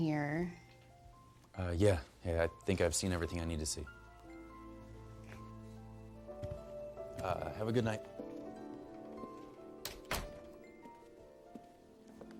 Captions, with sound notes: Uh, yeah, I think I've seen everything I need to see. [soft music] -Uh, have a good night. -You too. [door closes]